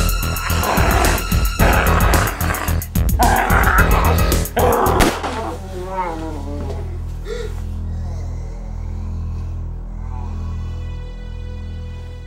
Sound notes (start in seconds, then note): 5.0 gun fires; 6.2 Jermaine growls; 9.3 aching music